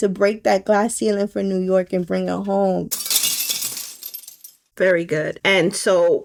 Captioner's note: glass Shattering Sound Effect